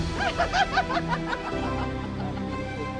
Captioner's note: laughing; upbeat reflective music